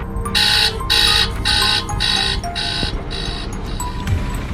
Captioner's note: alarm rings; ominous music intensifies